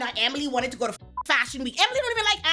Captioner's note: beep